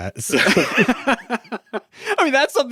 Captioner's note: both laughing